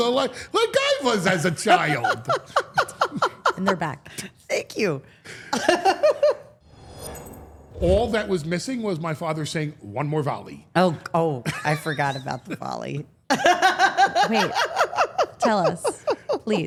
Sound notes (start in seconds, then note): 1.6 Steph laughing; 5.7 laughing; 6.6 logo whooshing; 13.4 laughing